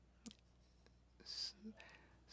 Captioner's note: speaking French